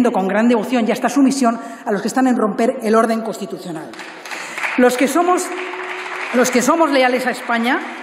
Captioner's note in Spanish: Aplausos